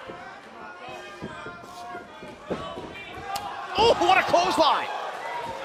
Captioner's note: crowd chatter